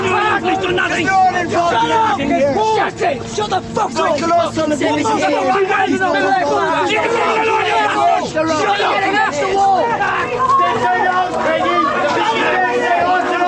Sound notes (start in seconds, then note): 1.4 yelling